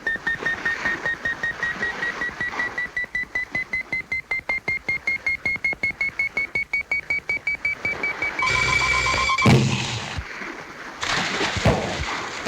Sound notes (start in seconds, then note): 8.9 weapons firing